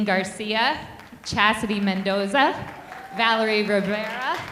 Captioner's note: audience clapping